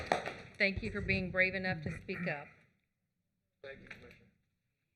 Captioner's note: applause